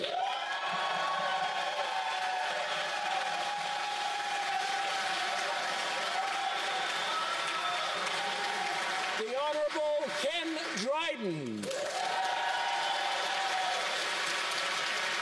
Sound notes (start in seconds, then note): 0.0 applause; 4.3 cheering